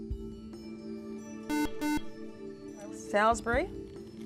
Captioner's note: buzzer